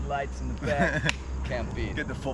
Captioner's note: chuckles